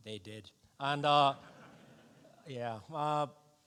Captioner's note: audience laughs